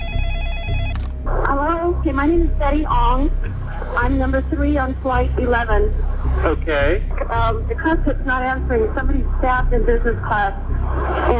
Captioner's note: phone Rings